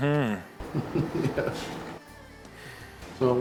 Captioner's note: laugh